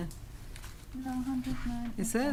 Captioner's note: speaking quietly